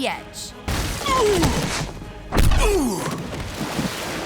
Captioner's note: grunting